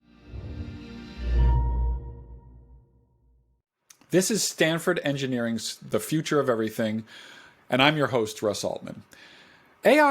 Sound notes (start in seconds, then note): 0.2 electronic sound